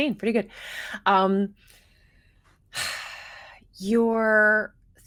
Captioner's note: person sighing